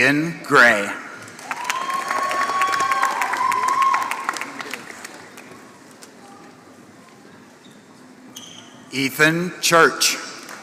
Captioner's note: applause; applause